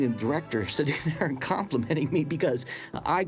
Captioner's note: laughing